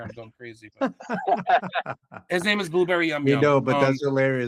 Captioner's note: laughing